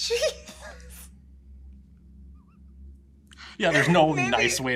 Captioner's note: laughs